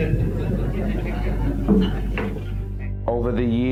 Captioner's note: speakers laughing mutually